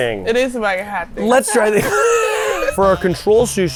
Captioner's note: laughs